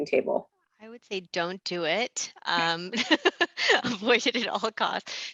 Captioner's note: laughing